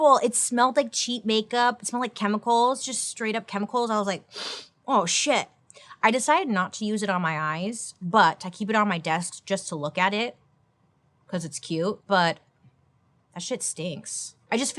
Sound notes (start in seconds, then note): 4.3 sniffs